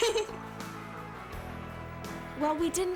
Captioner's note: giggling